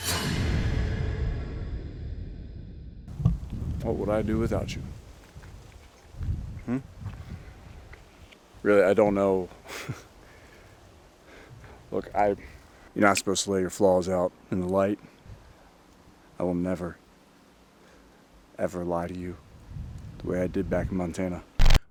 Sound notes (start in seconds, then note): 9.4 scoffs